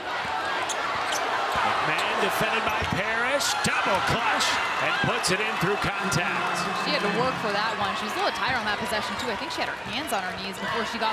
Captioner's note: crowd chanting "defense"